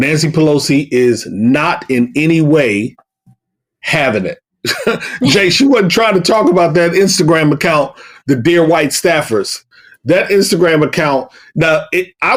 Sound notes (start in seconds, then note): 4.6 chuckle